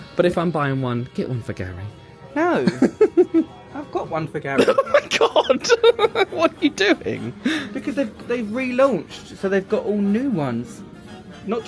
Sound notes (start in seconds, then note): 4.6 laughs